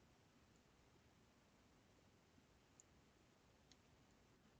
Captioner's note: mouse clicking